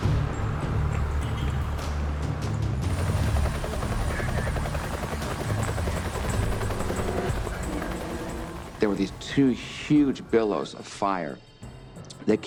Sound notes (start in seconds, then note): 0.2 dramatic music; 2.8 chopper whomping